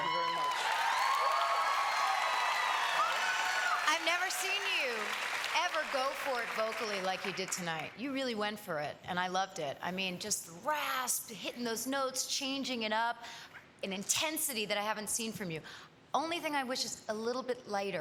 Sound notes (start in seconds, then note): 3.3 cheers and applause